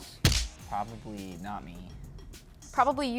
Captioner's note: smack